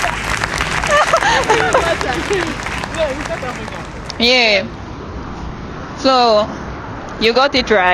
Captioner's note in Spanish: Aplausos